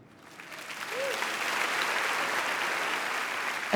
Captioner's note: audience applauding